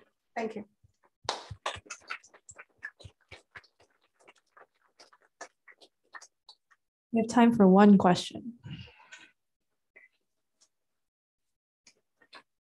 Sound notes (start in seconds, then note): 1.3 applause